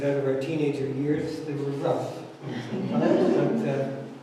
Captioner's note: audience laughs